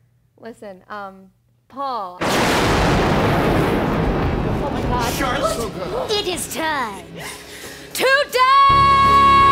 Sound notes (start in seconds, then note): 2.2 lighting Strikes